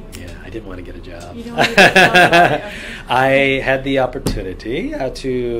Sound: laughs

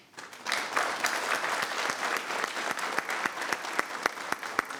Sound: people clapping

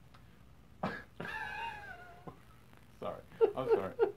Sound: laughing

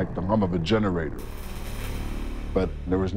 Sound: crackling

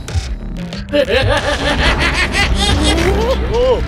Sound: manic laughter

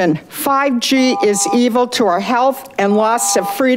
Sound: buzzer beeps

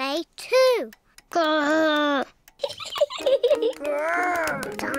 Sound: laughs

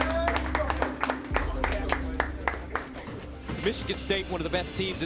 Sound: clapping; yelling

